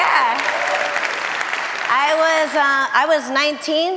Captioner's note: audience applauding